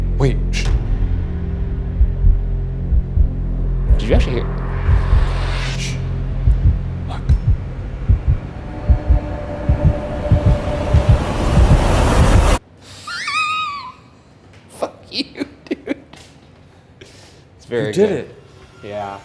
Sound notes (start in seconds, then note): 1.5 heartbeat pounding; 8.0 heartbeat pounding; 14.9 laughs